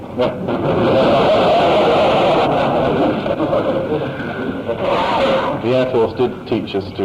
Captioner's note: laughter